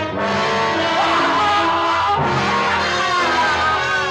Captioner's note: screaming loudly